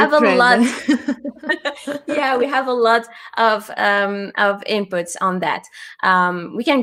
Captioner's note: laughs